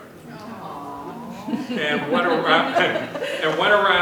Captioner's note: laughter